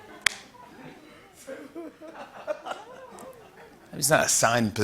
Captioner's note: laughter